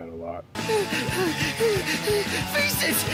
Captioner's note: frantic panting